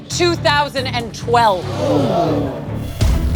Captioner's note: gasping